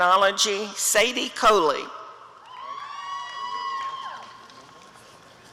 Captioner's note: audience cheering